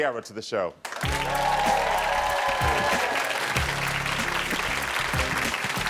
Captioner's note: audience cheering